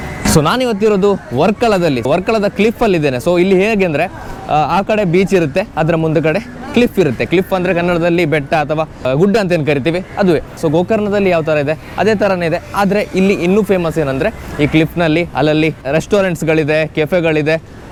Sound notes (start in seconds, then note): 9.7 in kannada